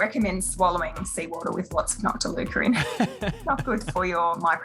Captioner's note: laughs